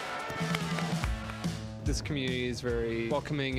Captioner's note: audience clapping